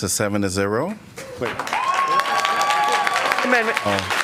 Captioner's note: applause